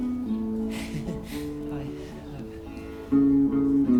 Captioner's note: chuckles